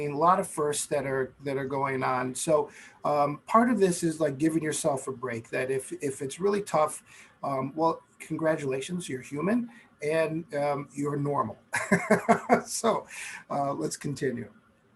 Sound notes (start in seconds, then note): 11.7 laughing